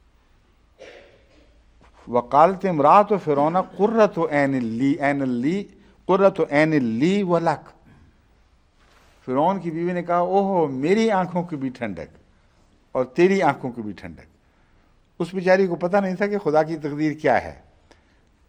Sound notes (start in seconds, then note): 2.0 Arabic